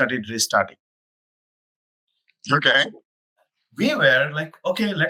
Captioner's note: laughs